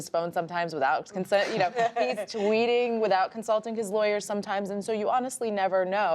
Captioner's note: laughter